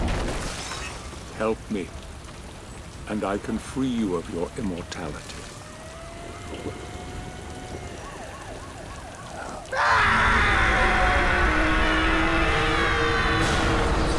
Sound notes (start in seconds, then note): 9.7 grunt